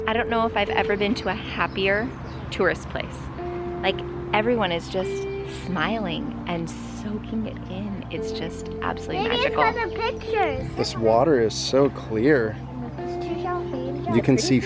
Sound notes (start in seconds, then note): 7.1 birds singing